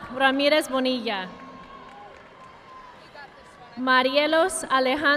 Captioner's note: audience clapping